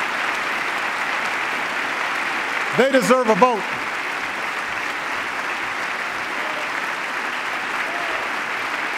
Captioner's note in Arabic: تصفيق